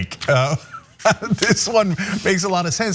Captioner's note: laugh